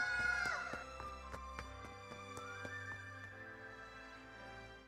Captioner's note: footsteps